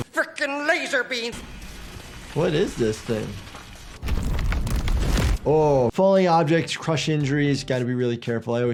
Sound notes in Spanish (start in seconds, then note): 4.0 golpes de roca